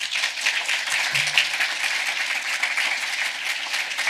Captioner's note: audience applause